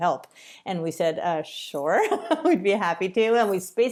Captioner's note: laughter